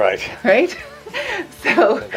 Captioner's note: laughs